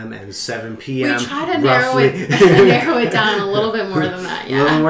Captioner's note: laughs